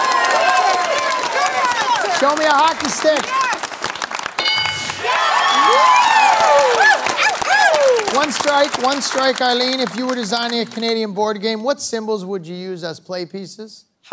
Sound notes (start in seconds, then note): 0.2 applause; 4.4 bell dings; 5.5 applause, cheering